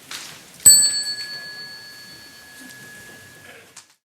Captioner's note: light bell rings